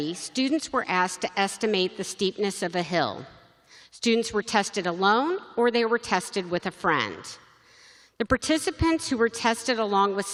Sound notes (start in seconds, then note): none